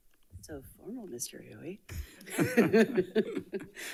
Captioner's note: laughs